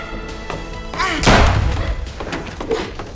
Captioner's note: gunshot